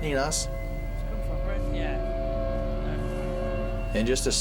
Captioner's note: ominous music playing; indistinct chatter